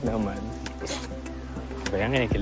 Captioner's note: chortles